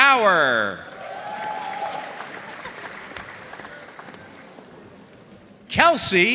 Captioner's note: audience cheering and applauding